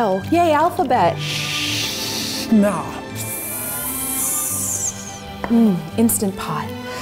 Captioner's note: hissing